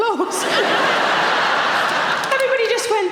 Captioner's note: audience laughing